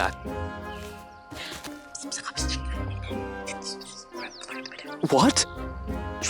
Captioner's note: Jade whispering